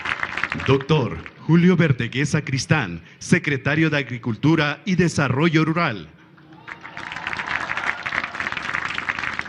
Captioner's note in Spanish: aplausos; aplausos